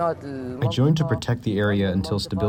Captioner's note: through translator